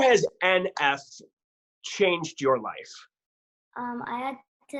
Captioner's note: chuckles